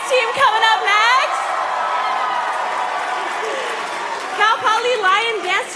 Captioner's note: applause; cheering